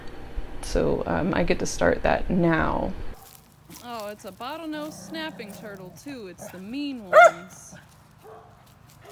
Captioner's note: bark